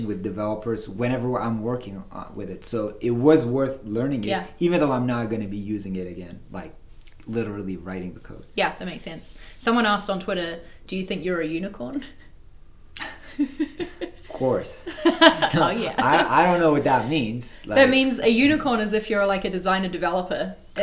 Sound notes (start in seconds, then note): 13.0 both laughing